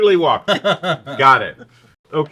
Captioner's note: laughs